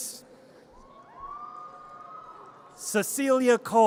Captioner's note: audience cheers